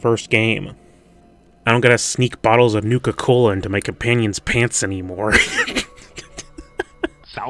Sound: giggling

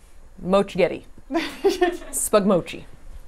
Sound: laughs

